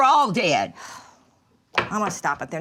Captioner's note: Dory exhales